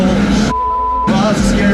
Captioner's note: beep